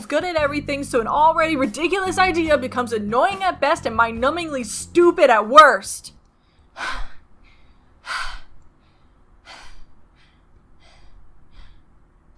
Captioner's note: heavy Breathing